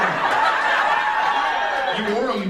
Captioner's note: audience laughs